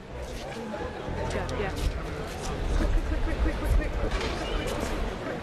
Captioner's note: voiceover